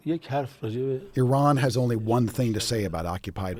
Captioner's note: through translator